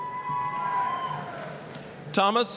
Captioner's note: applause, cheering